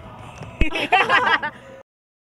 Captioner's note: both laughing